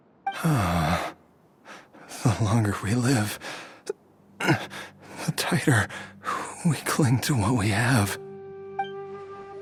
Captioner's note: sigh